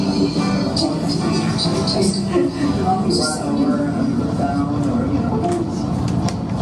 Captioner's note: female speaker in English